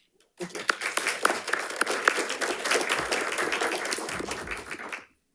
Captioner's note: audience applauding